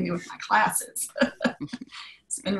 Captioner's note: laugh